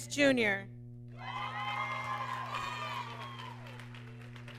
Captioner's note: applause